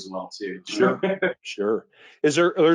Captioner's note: laughs